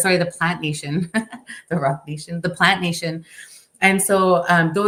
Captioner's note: chuckles